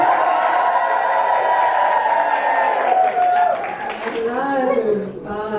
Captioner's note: audience cheers